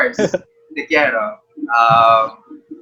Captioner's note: in Spanish